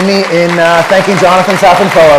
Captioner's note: applause